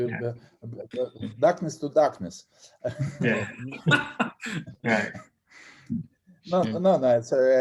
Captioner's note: laughter